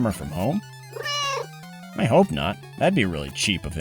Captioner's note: meow